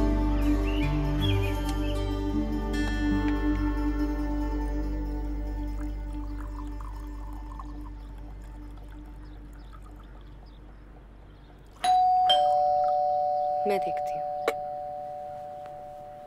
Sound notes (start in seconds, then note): 11.8 Doorbell ringing